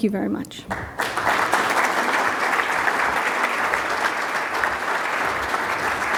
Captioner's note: applause